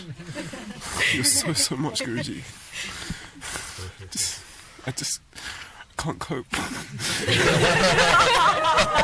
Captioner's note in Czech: smích